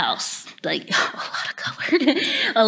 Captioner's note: laughs